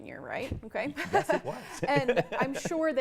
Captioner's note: laughs